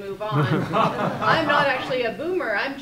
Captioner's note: group laughter